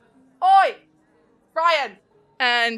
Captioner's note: yelling